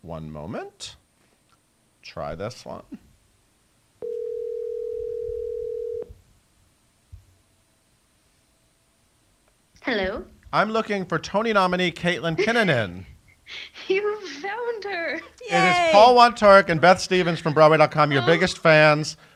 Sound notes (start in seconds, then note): 4.0 phone ringing